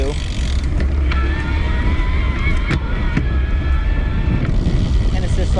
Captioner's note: bicycle motor spinning